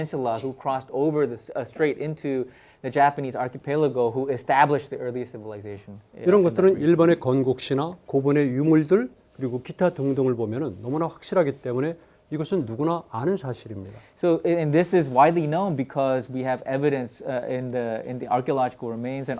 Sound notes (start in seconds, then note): 6.4 speaking in Korean